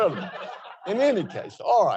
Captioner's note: audience chuckles